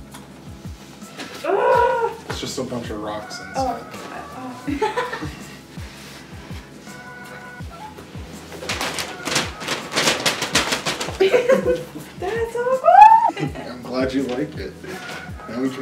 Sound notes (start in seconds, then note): 4.0 laughs; 8.5 excited